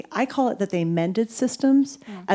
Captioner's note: none